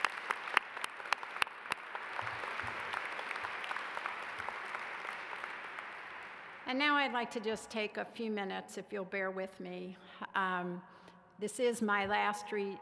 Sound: applause

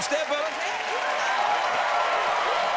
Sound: cheers and applause

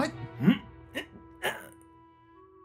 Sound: Elijah grunting

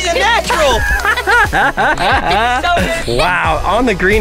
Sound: laughing

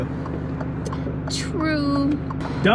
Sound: signal light clacking

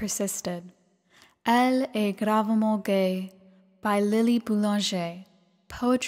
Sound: speaking french

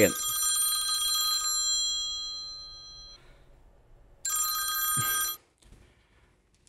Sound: phone rings; phone rings again

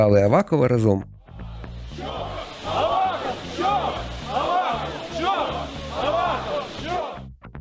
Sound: they chant "Avakov-damn!"

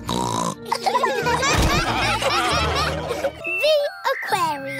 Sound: snorts; laughter

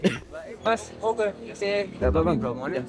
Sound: speaking Javanese

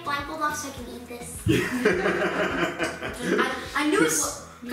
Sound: laughing

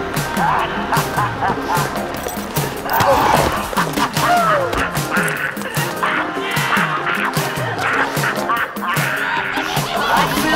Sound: ahh ahhh ahhh ahhh ahhh ahh ahhh ahhh ahhh ahhh

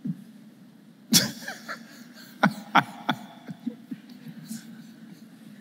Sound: laughs

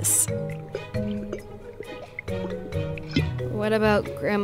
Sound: gulping loudly

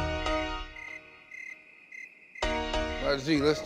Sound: crickets chirping

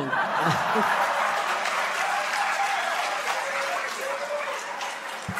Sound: laughter; applause

